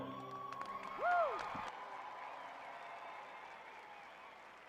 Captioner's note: audience cheering